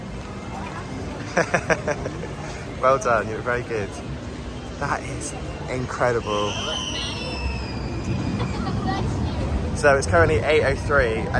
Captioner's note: laughs